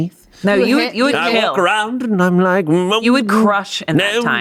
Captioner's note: grumbles